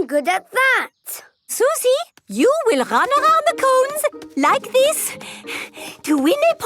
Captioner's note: panting